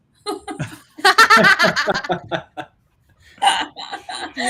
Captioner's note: all laughing